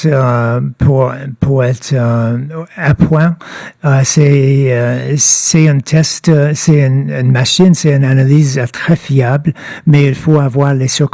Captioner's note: speaking French